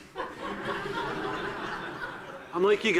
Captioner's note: audiences laughing